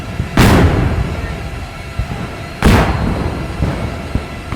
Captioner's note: cannons fire